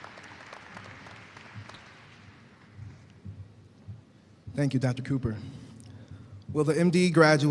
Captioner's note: applause